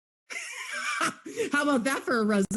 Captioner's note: laughing